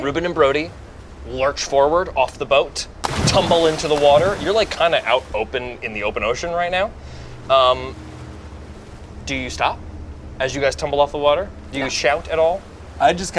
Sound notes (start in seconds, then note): 4.1 water splashes